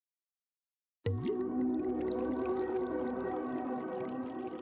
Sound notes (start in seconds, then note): 1.0 cork opening; 1.0 liquid flowing